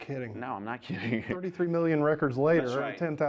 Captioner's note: laughs